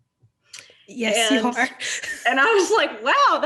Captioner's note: laughs